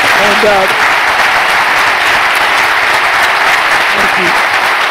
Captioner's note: applause